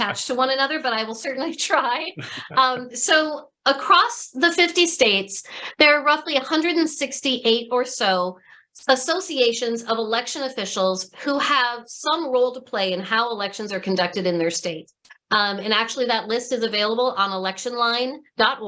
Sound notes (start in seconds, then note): 2.1 laughter